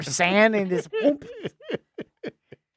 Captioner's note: laughing